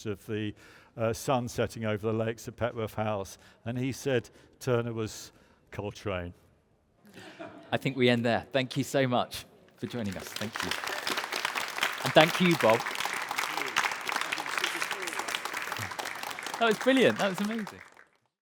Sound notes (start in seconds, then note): 11.5 audience applauds